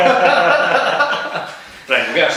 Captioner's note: laughing